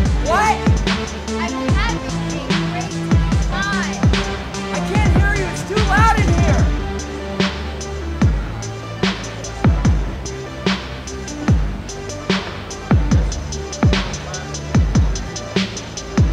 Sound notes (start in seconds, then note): 0.1 yelling; 4.7 yelling